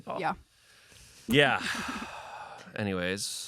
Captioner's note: sighs